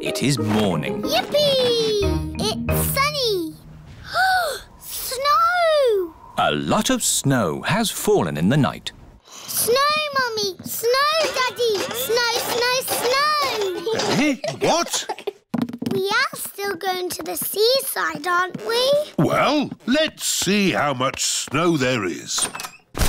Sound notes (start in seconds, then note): 4.0 gasps